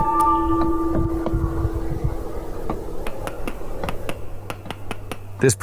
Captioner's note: footsteps